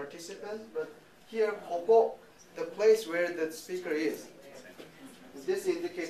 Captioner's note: speaking japanese